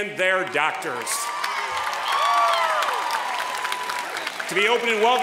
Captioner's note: applause